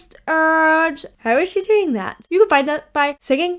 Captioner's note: chime ringing